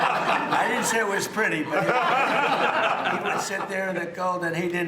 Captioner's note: laughter